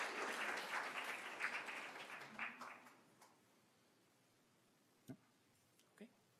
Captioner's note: applause